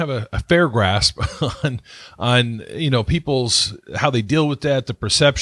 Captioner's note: laughs